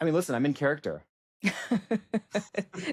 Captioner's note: laughs